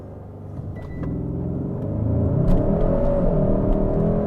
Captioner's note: engine revving